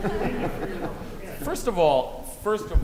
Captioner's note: audience laughing softly